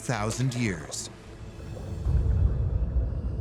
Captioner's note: deep rumble